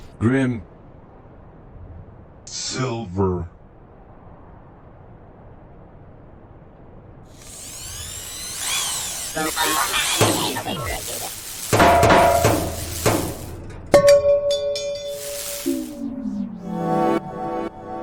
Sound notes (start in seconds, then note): 7.3 electronic whirring; 11.5 metal clanging